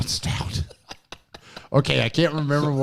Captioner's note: laughs